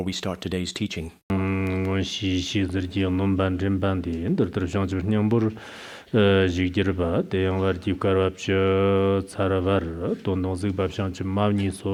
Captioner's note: giving oral transmission in Tibetan